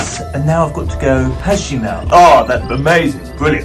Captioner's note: serious voice